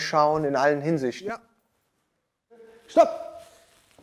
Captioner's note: quietly